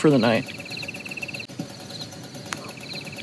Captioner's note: crickets chirping